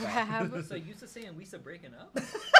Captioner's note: mimicking Jar Jar